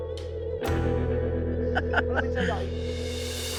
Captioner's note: laughs